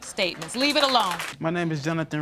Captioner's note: applause